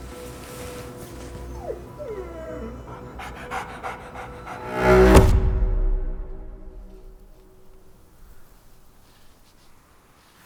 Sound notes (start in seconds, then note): 0.8 dogs whimper; 4.7 dramatic music